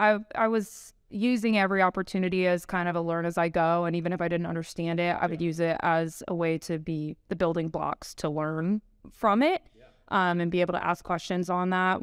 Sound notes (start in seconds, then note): 2.6 laughing